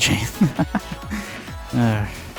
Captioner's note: laughs